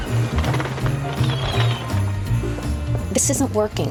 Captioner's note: seagulls squawking